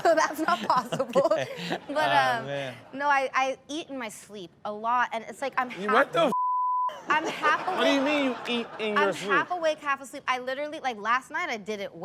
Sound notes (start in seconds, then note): 6.3 beep; 7.0 audience laughs